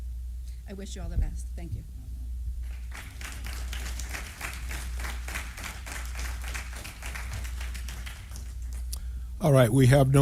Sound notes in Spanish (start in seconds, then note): 1.7 aplausos